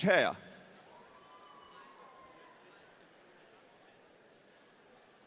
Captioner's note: audience cheering